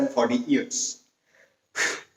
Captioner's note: phew